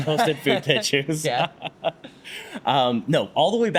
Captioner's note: laughs